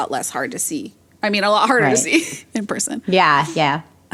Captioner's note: laughs